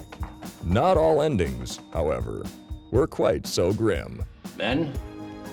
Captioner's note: voiceover